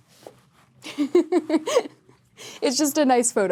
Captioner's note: Sadie laughs